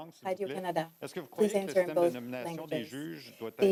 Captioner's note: speaking French